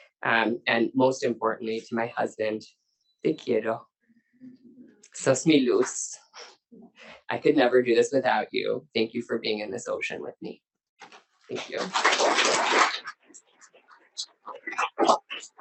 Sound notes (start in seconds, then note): 2.9 speaks in Spanish; 11.5 audience applauding